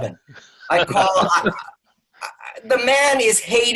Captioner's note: laughing